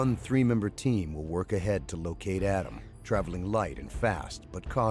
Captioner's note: voiceover